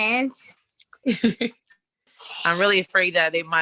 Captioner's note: laughs